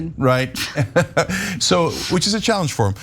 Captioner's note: laugh